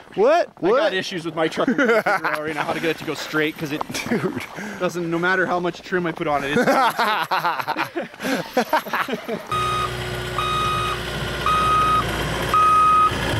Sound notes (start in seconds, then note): 1.5 laughing; 6.5 laughter; 9.5 skid steer beeping